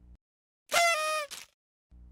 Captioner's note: party horn